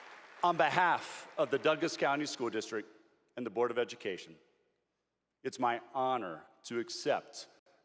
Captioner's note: applause